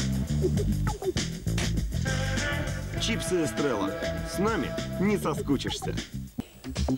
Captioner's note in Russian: шлепок